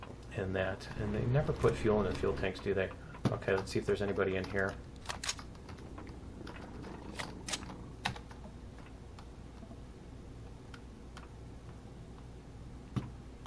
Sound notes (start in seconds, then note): 5.6 alien growling; 8.3 footsteps